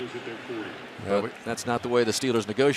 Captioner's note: pa announcement